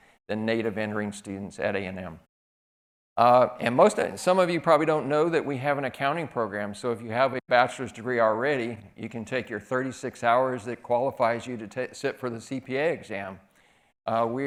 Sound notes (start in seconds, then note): none